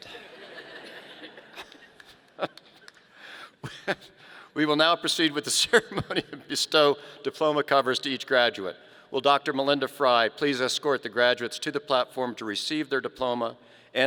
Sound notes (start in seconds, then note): 0.0 audience laughing; 5.3 laughing